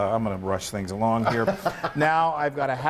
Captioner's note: laugh